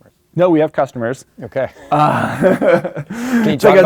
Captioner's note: laughs